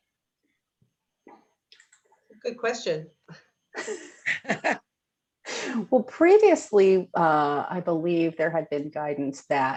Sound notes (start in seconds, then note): 3.8 laughing